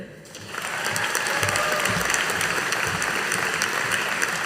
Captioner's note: audience applauding